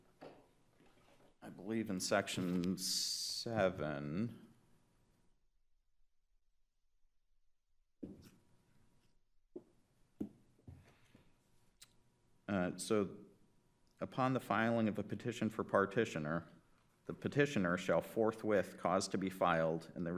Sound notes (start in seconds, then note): 4.7 silence; 8.5 silence continues